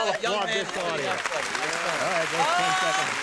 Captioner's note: applause